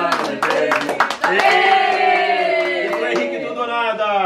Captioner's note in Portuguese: palmas